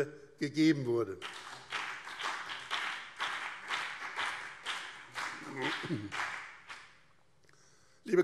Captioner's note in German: Beifall BÜNDNIS 90/DIE GRÜNEN und CDU